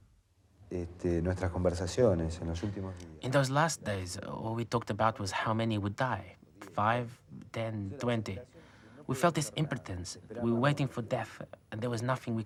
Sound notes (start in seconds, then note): 0.8 man speaking in foreign language